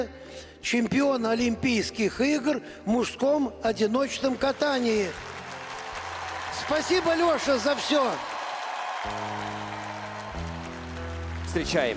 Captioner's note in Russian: ликование